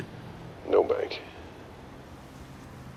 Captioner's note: on phone